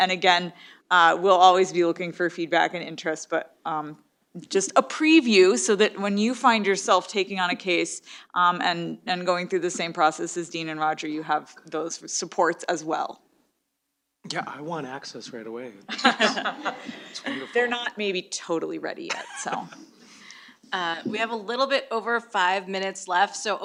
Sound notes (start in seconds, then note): 15.8 laughter